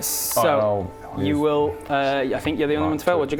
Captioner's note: whisper